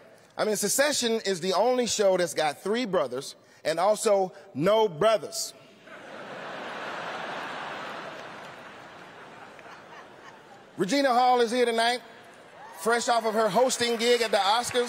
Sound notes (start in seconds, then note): 5.8 laughter